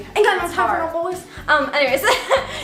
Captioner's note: laughs